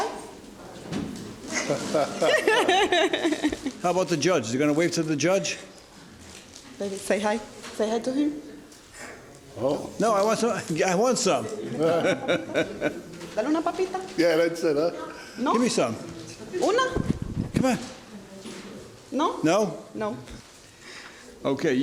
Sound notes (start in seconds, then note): 1.5 laughing; 11.6 laughing